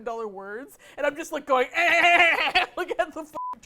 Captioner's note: imitates gun noises